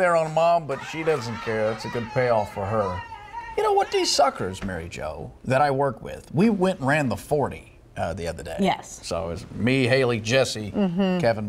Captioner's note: screaming